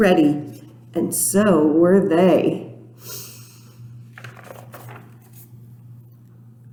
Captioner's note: sniffs